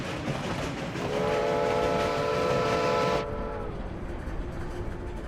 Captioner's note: train whistle bellowing